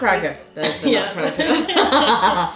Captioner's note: laughs